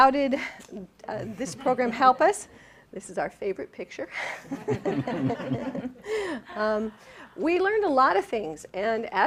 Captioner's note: laughing